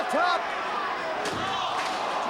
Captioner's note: spectators exclaiming; body thudding; chair clanging